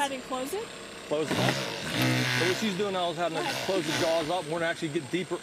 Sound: engine noise

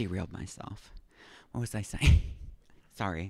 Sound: chuckling

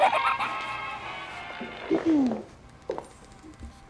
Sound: delighted squeal; woman clears her throat

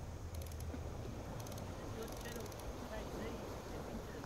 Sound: line whirring

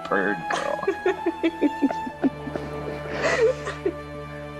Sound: both laughing

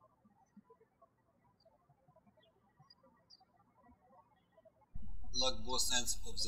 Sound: birds chirping

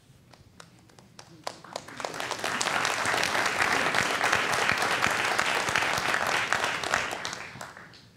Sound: applause

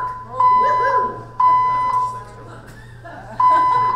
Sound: alarm blaring loudly; audience chattering

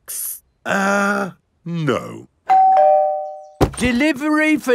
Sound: doorbell rings

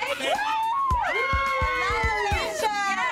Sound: all cheer

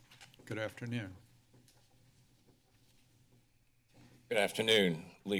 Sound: paper rustling

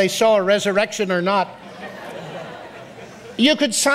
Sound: audience laughs

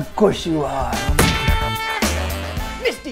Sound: thud

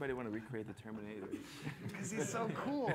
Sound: laughter

